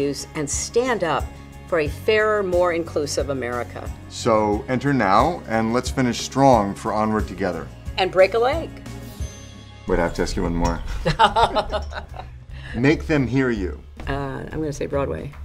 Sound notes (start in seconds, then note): 10.9 laughter